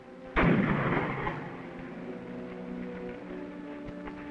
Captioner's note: guns firing